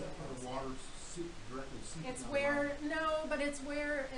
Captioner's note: man speaking